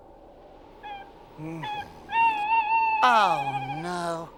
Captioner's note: hooting